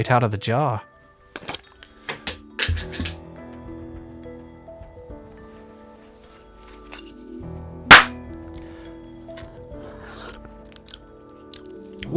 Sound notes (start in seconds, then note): 2.1 lid falls and rolls on the floor; 9.7 disgusting human eating sounds